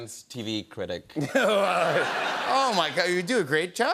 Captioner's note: laughter